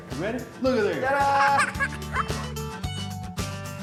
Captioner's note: laughing